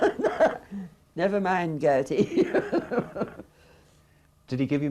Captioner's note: laughs; laughs